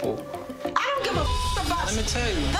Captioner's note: beep